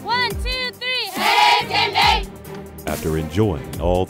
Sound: girl cheering in unison

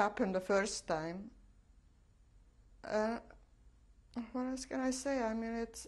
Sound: pauses for 3 seconds

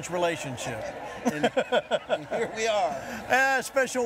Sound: laughing

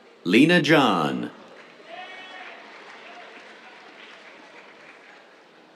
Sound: cheers, applause

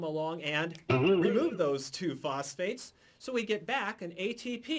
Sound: ba-boing!

